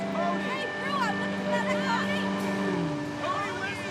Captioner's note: indistinct shouting